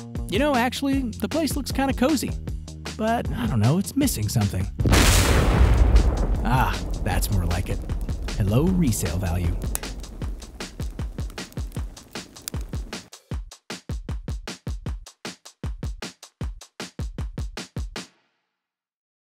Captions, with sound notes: You know actually, the place looks kind of cozy, but I don't know, it's missing something. (fire explodes) That's more like it, a low resale value. (upbeat music)